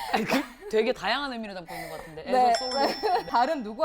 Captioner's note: laughter